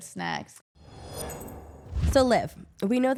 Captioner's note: logo whooshing